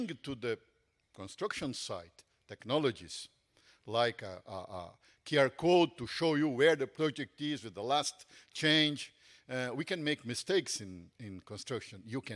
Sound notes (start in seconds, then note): none